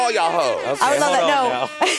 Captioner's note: horn blaring